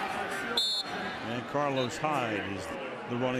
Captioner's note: whistle blows